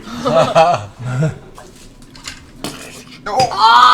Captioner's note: shattering noise